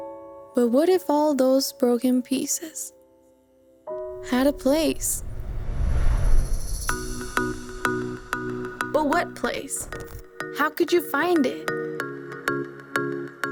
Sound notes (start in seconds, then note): 5.9 roaring; 8.5 cheerful music